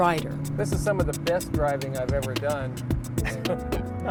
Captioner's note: laughs